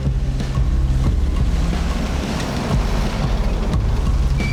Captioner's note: engine whirring; tires screeching